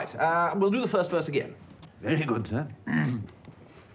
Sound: clears throat

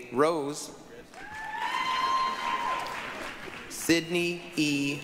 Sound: applause, cheering

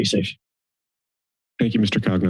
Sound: silence

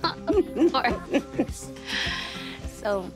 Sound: laughs; chuckles

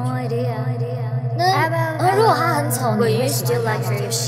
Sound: speaking in Mandarin

